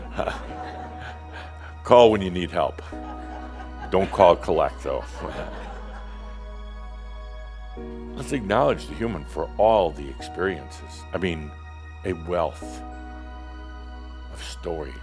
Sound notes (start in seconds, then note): 0.2 some chuckles; 5.0 more chuckles